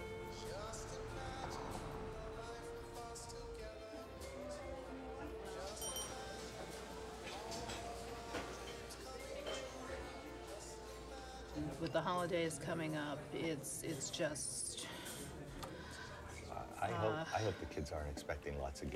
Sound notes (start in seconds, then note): 5.8 bell dings; 15.5 sighs